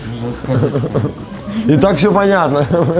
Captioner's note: laughs